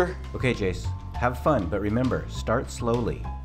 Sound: none

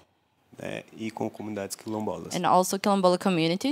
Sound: non-english speech

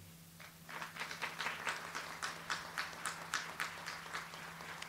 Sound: audience applauds

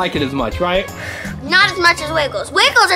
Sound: sighs

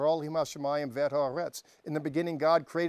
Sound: speaking Hebrew

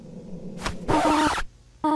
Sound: record scratch

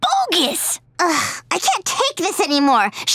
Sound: sighing

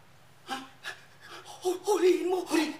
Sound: gasps

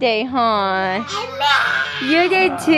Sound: yelling

